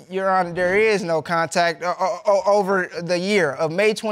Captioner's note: stammers